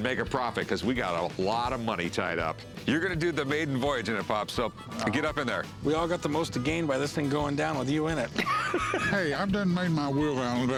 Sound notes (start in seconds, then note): 8.2 laughs